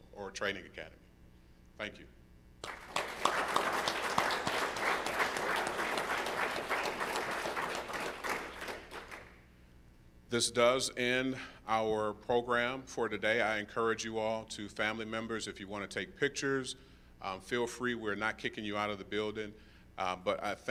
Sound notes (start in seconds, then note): 2.6 applause